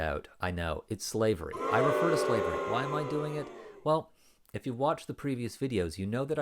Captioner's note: louder booing